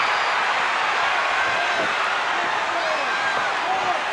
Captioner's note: crowd cheers